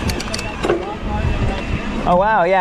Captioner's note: gear ratcheting